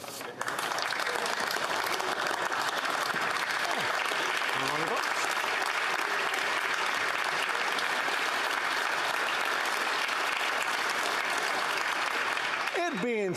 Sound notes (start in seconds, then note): 2.7 applause